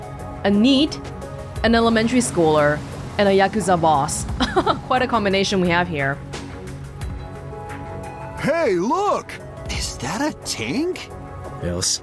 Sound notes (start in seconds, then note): 4.3 chuckles